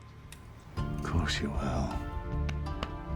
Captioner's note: scottish accent